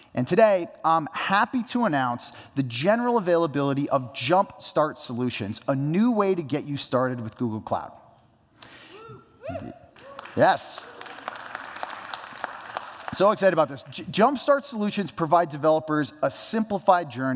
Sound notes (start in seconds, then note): 9.9 applause